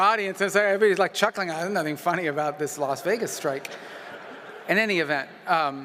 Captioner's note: laughter